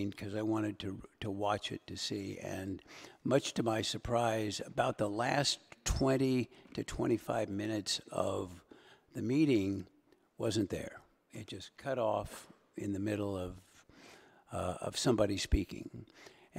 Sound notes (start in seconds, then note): none